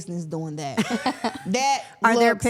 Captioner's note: everyone laughs